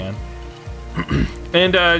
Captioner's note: clears throat